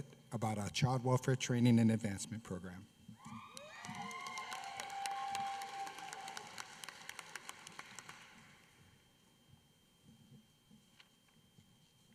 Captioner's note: applause